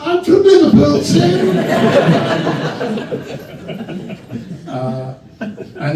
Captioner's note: laughter